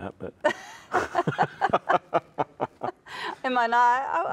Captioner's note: both laugh